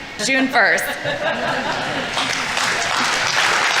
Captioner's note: audience laughing; audience applauding